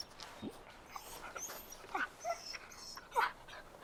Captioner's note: Buck whining